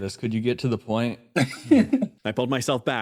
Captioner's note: tiny Laugh